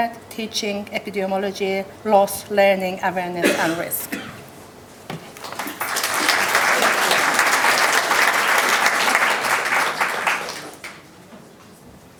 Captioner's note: applause